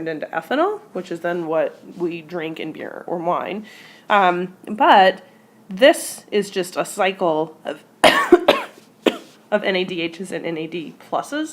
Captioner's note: cough